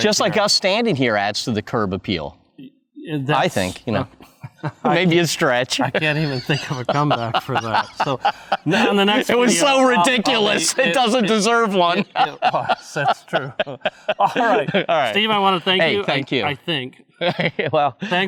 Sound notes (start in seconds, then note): 5.7 laughing; 11.8 laughing heartily